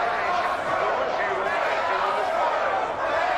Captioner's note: man over speakers